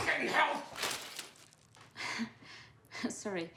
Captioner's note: chuckles